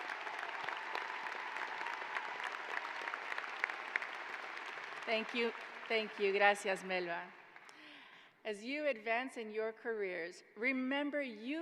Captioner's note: applause